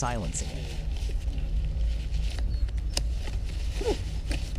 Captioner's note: coats rustling